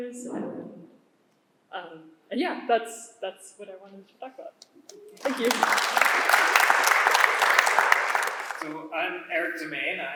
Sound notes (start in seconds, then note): 5.1 applause